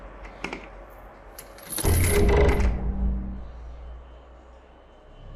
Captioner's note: chain rattling